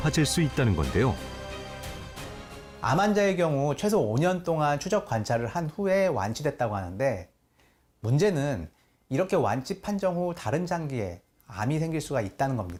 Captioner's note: voiceover